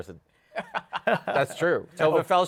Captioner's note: laughter